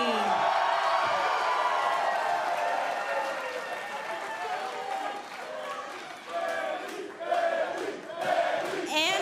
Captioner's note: cheers & applause; fans chanting